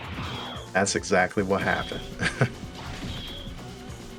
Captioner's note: laughs